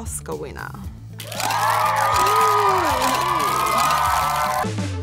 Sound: crowd cheering; cameras clicking; upbeat pop music

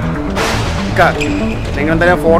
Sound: thunder

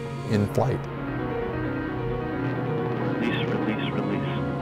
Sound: jet engines

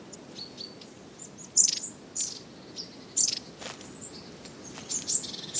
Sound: chirping

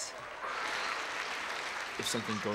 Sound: audience applause

